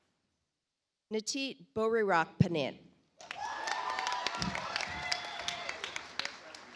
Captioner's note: audience applauds